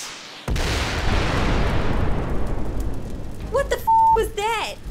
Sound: loud bang

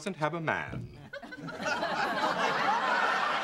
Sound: laughter

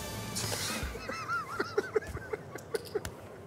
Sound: laughing

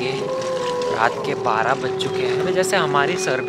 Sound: wolf howls

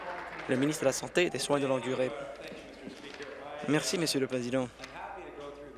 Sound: applause

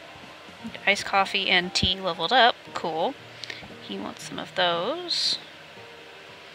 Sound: none

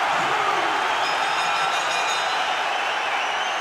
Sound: cheers and applause; bell dinging

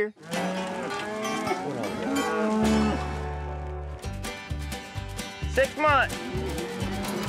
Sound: cattle mooing

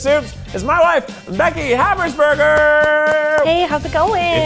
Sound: clapping

